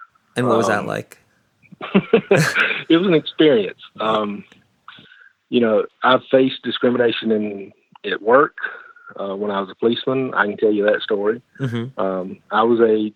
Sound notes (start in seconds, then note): 2.2 laughs